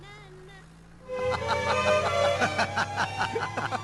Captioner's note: both Laughing